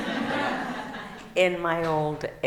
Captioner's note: laughing